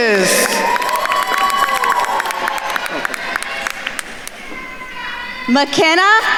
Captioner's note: attendees cheering and applauding